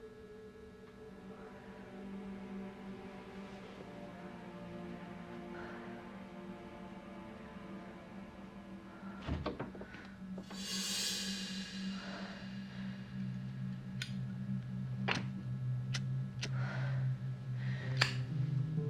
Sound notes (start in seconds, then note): 1.4 dramatic music; 15.1 lighter flicking